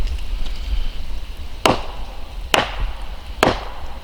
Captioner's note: knocks